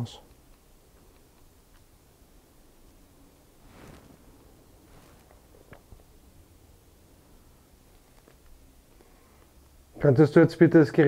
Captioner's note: silence in the background